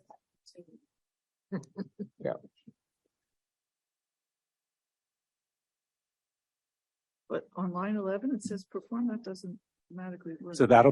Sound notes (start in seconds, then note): 1.5 laughter